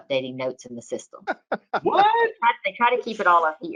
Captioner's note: laughing